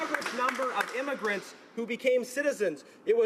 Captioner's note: applause